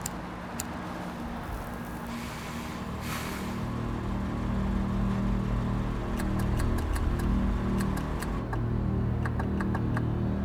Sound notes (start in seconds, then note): 0.1 lighter flicks; 1.3 suspenseful music; 1.4 engine idling; 6.2 headlights clicking on and off